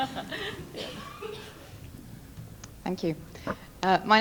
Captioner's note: laughter